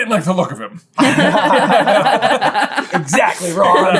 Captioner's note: all laugh